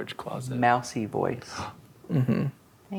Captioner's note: gasps